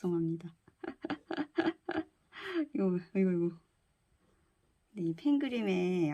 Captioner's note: laugh